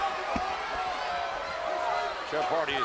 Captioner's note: crowd boos